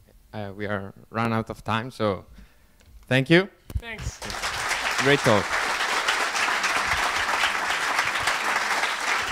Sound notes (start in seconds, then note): 0.8 voiceover; 4.0 audience applauds